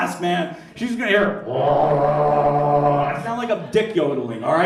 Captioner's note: gurgles